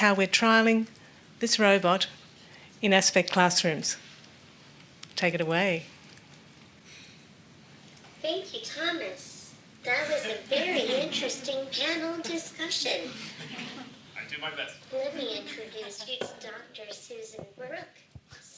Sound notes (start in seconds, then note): 13.2 audience gently laughing